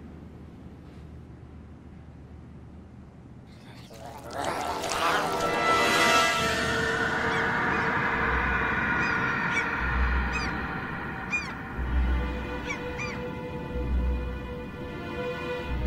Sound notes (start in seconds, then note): 3.8 alien gurgling; 3.8 ominous orchestral music; 6.5 lighthouse keeper screaming; 11.8 suspenseful string music